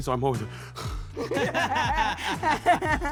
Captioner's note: panting; everyone laughing; laughing